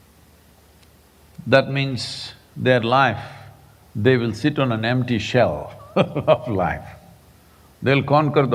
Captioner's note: laughs